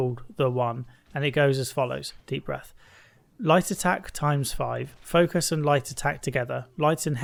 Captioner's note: deep breath